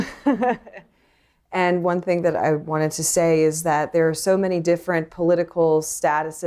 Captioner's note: laughter